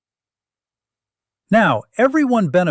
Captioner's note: pause